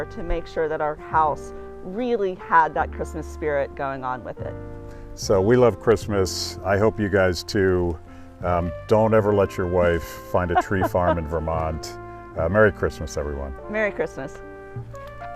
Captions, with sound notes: to make sure that our house really had that Christmas spirit going on with it. - So, we love Christmas. I hope you guys too. Don't ever let your wife find a tree farm in Vermont. (laughs) Merry Christmas everyone. - Merry Christmas.